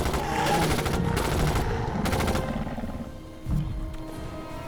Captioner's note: guns firing